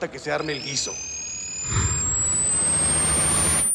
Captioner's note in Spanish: Pitidos